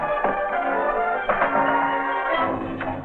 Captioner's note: banging on door